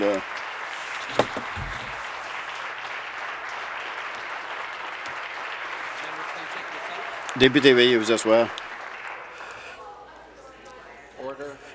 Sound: some Applause

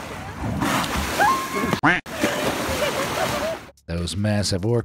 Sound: orca splashing; expletive quacks; onlooker screams

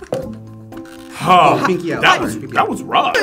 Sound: sighs

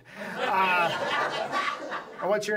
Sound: audience laughs

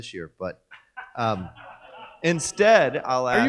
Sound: audience laughs

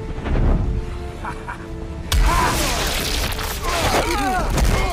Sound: Loki laughing

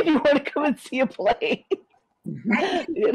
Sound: laughs

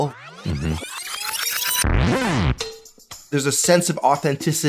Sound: tape rewinding

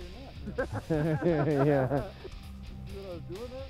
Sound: laughter

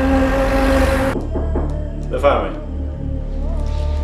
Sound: knocking

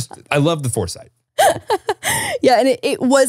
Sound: laughs

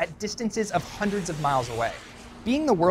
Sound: missile whooshing

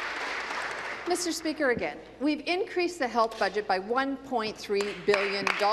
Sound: applause

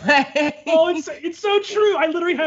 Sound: laughs

